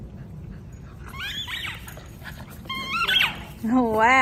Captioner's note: toy squeaking